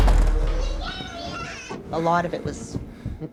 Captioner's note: child yelling